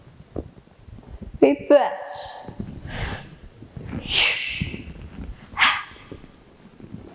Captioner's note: exhales